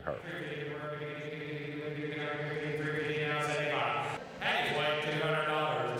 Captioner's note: auctioneer chanting